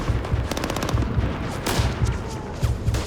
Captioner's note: gunfire